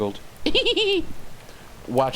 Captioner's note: clown laugh